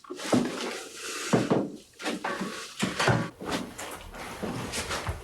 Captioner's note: footsteps thudding